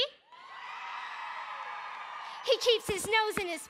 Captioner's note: crowd cheering